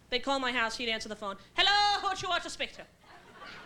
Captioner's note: irish brogue